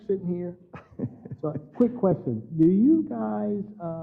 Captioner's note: laugh